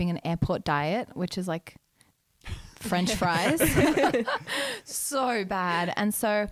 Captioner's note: laughing together